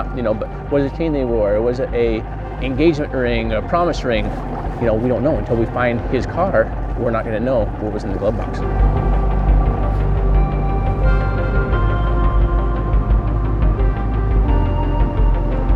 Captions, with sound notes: I don't know if he wore a chain or not, ya know, but was it a chain they wore? Or was it a engagement ring, a promise ring? Ya know we don't know until we find his car, we're not gonna know what was in the glove box. (light music continues) (boat rumbling)